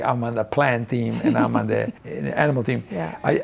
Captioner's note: laughing